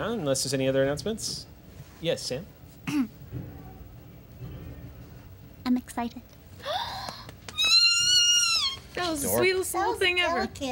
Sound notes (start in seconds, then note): 6.9 gasping and squealing